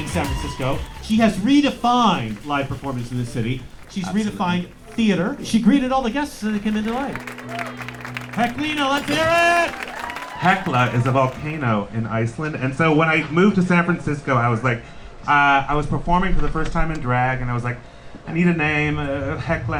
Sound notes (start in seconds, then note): 8.7 applause